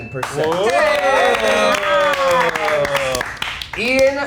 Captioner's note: contestants cheering